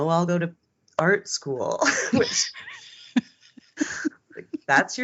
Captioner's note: both laughing